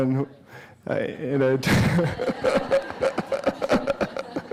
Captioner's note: laughter